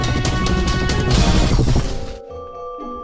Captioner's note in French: Explosion